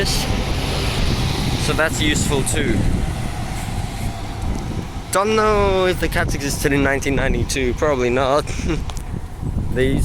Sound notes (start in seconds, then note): 8.5 laugh